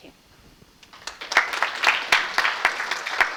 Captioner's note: audience applauds